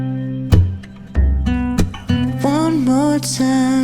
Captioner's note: step